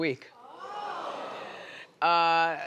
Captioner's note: audience oohing